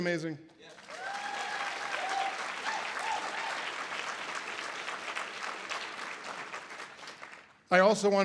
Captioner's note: audience applause